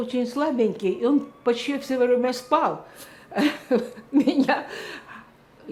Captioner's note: laughing